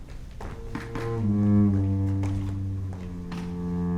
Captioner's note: footsteps stomping